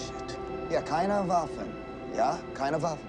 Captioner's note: Sinclair speaking in foreign language